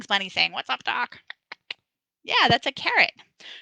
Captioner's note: tongue clicking